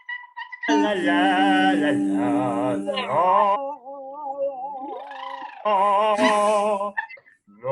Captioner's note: all humming